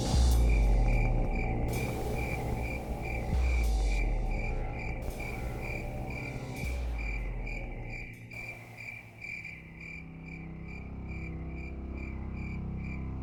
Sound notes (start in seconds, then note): 0.0 crickets